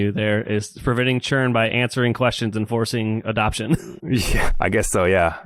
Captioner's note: laughs